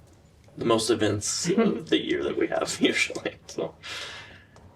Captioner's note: laughter